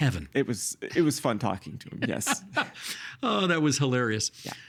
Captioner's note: laughing